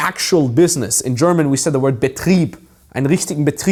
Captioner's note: speaking German